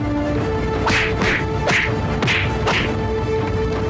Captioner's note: smack